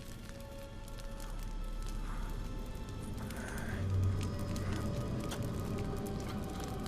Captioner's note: eerie music; fire crackling